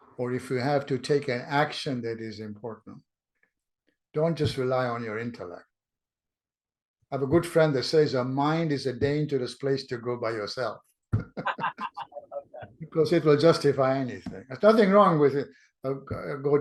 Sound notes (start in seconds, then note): 11.2 laughs